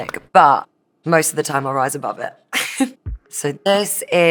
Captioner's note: chuckles